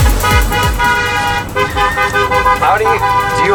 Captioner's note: upbeat music; honking